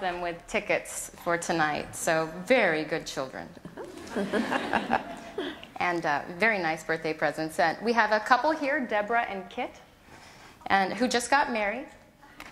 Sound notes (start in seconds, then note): 3.7 laughter